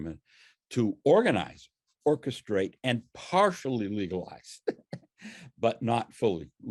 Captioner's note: laughs